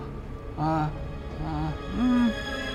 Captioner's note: moaning; gasps